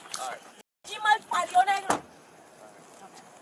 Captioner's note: speaking in Spanish